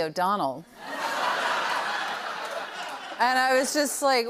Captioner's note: laughter